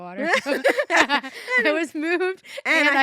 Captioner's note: laugh